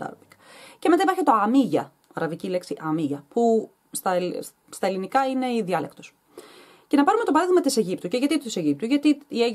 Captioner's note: in Arabic